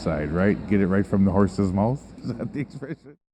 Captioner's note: laughs